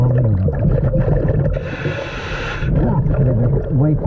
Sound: water bubbling; mouthpiece hissing

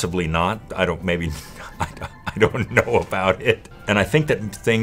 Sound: laugh

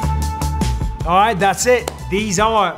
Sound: upbeat music; claps hands

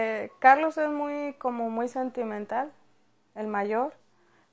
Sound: speaking Spanish

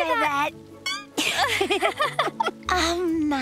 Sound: laughing

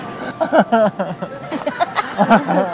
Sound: laughing

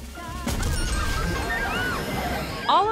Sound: drumroll; explosion and laughter!

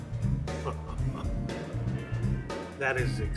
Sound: bright upbeat music; Bob laughing

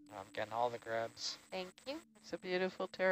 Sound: male Voice

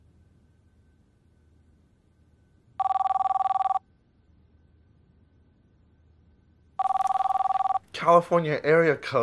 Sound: phone ringing

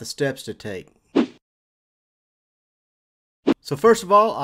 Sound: air swooshes

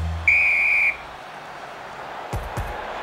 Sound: whistle

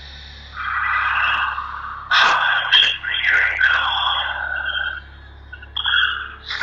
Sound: sighs

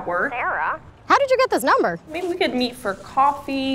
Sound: none

